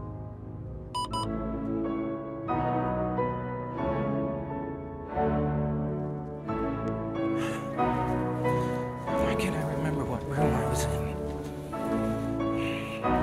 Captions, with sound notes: (beeping) (dramatic instrumental music) Why can't I remember what room I was in?